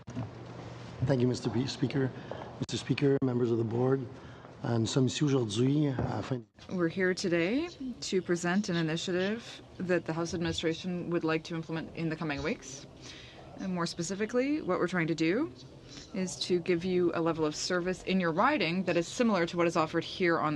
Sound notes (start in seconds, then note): 11.0 speaking French